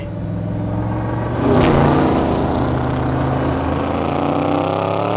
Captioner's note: car engine roars